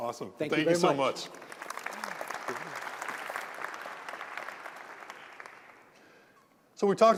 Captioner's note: applause